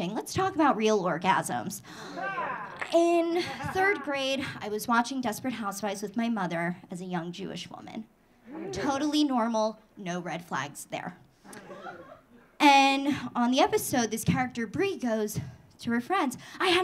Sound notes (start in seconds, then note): 1.7 audience laughing; 11.5 audience laughing